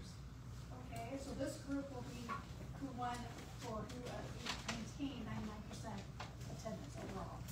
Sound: stammers

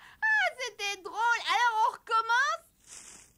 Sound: rustling

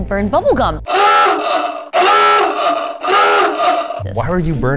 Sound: alarm blaring

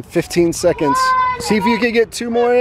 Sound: children yelling

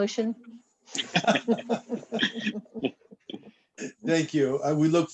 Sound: laughter

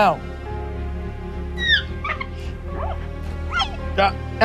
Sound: dilophosaurus screeching

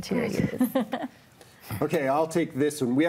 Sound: laughs

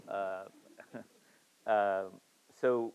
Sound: Siddhartha chuckles

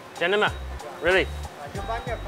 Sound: speaking in foreign language

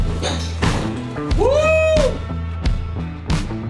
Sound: crowd

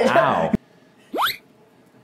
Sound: cartoony "whoop!" soundeffect

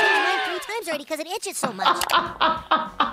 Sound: laughs

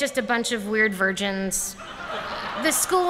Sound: laughter

